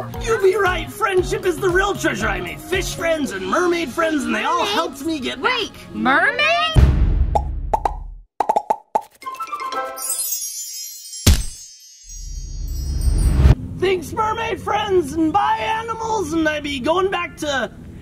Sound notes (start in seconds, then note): 8.4 letters popping; 9.3 whimsical chiming